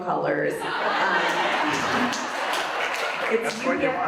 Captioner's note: audience laughs and applauds